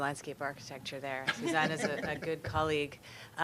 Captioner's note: laughing